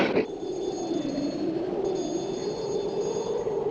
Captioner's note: ringing